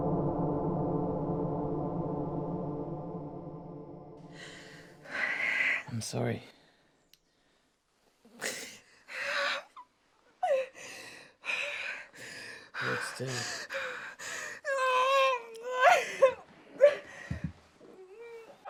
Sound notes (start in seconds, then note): 10.4 sobs; 15.0 groaning